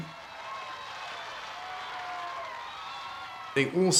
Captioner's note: crowd cheering